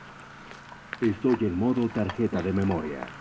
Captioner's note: radio voice